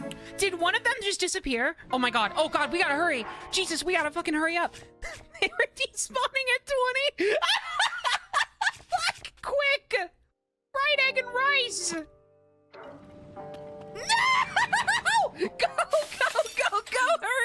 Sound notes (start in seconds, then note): 7.2 laughter